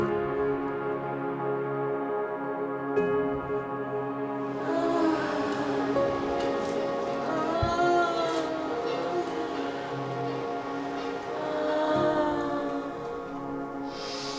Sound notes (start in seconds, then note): 5.2 moaning softly